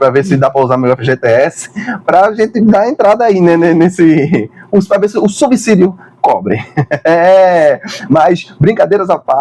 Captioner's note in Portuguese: risadas